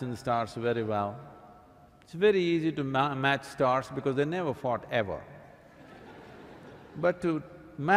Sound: laughter

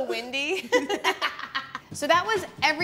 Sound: chortling

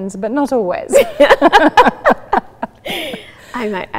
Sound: laughter

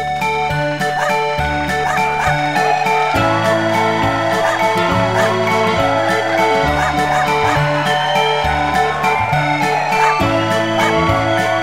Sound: clapping, cheering, barking

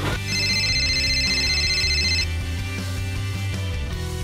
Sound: phone ringing

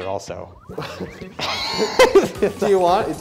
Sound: laughing

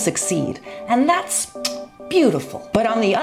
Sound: kiss sound

